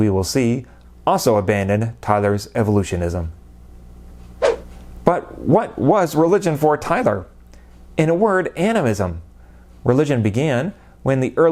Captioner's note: swoosh